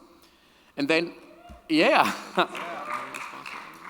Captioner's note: audience applauding and cheering